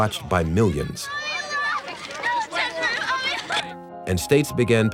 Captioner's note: crying